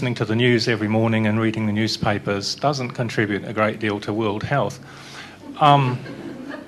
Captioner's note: laughter